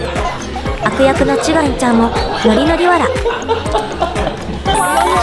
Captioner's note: laughs